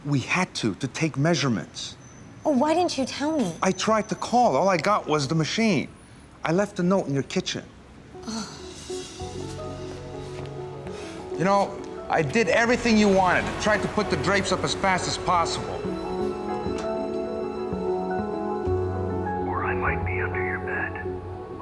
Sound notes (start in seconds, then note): 8.3 groans